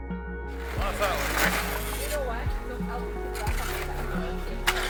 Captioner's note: chattering